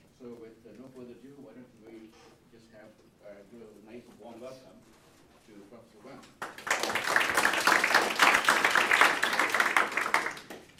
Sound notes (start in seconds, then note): 6.4 applause